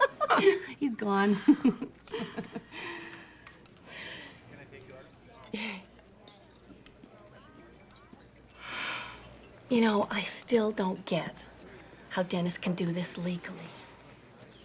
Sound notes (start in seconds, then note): 2.7 sighs